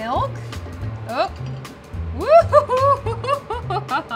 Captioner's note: laughs loudly